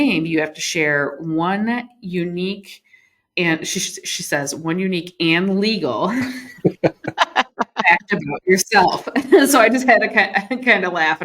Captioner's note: laughter